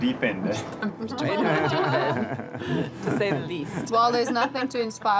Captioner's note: laughs